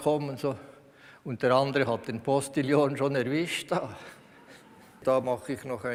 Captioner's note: laughs